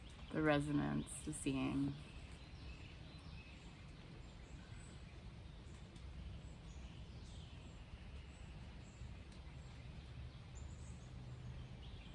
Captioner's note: birds sounding